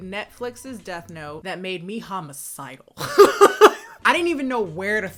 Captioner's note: laughs